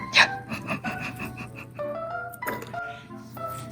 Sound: giggle

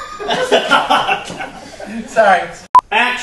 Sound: laughter

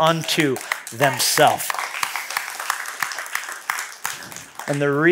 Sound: applause

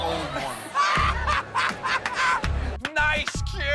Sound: laughter

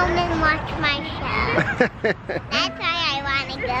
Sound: laughs

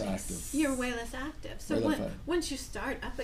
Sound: voiceover

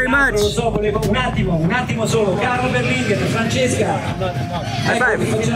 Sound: speaking foreign language

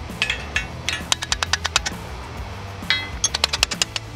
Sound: hammer hitting metal

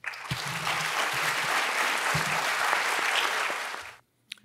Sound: audience applauds

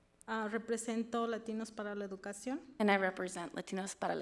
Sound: speaks foreign language

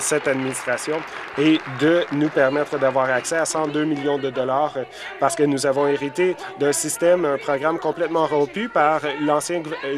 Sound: applause

